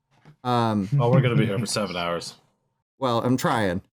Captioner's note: chuckles